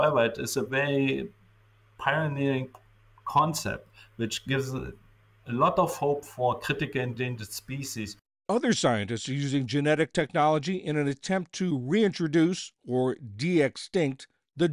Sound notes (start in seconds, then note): 8.9 voice-over